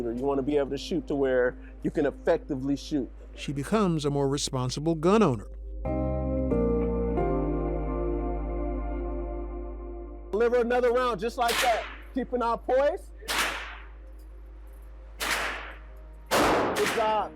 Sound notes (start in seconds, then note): 5.8 gentle music; 13.2 gunshots cracking; 16.3 gunshot booms